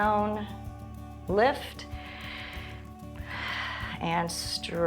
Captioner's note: inhales and exhales